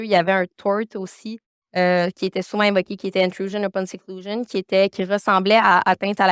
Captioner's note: continues speaking French